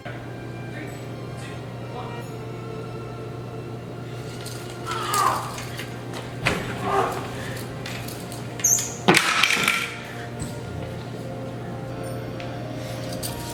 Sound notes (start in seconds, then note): 4.8 groaning; 8.8 sheath clattering